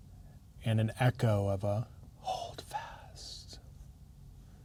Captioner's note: whispers